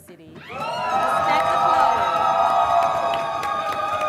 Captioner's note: audience cheering